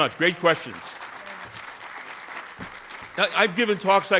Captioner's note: audience applauding